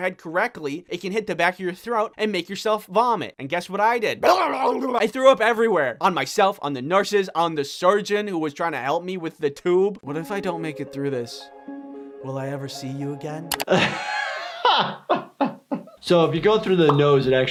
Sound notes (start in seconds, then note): 4.5 person retching; 10.0 contemplative music; 13.6 laughing